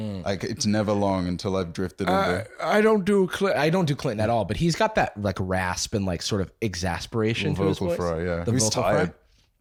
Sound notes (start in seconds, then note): 3.5 normal voice